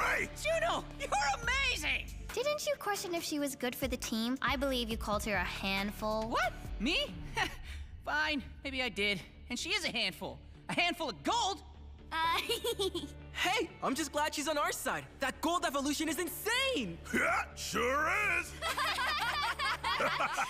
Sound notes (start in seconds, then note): 7.0 chuckles; 12.3 laughing; 18.2 laughing